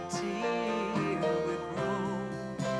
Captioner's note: none